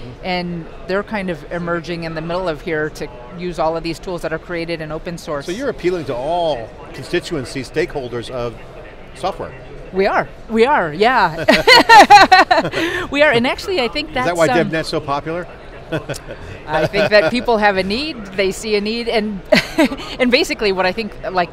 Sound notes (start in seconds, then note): 11.2 laughs; 15.8 laughs; 19.5 laughs